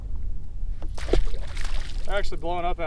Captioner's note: water splashing